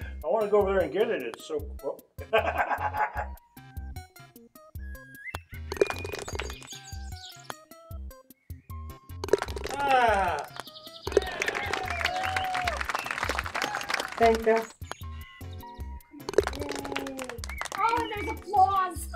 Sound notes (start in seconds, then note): 2.2 laughs; 5.8 ball falls into cup, applause; 11.0 ball falls into cup, applause; 16.3 ball falls into cup, applause